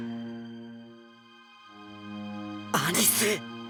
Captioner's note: silence